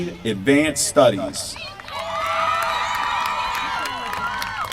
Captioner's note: applause